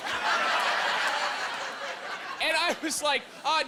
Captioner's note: laughing